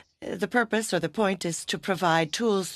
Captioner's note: speaking French